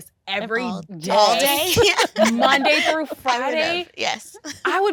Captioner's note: laughing